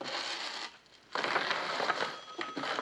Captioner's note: phone ringing